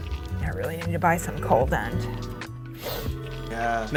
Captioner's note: sniffs